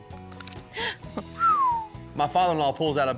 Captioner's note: whistles